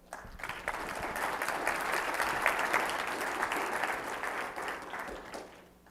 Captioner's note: applause